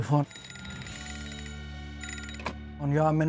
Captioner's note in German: Telefonklingeln